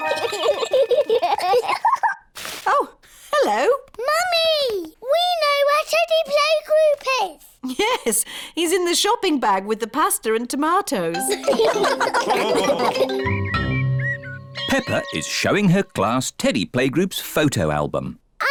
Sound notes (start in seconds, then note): 0.0 both giggle; 11.3 all laugh